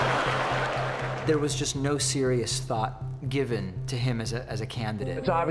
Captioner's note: audience laughing